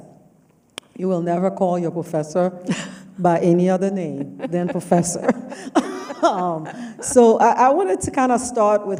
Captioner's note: laughs